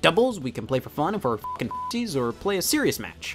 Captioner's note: beeps